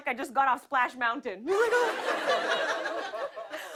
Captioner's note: laughter